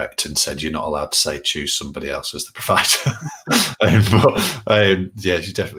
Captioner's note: laughs